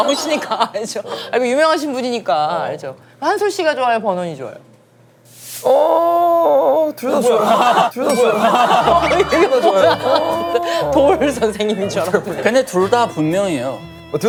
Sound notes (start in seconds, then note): 8.6 sudden sick chicken sound